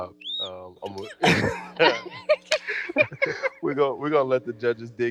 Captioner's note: laughing